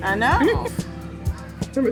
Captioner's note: laughter